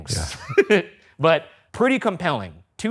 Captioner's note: chuckling